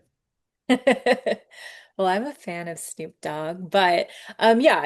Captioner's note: laughs